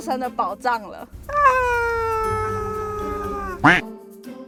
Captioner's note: screams